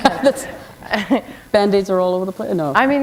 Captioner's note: laughter